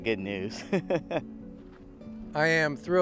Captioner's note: chuckles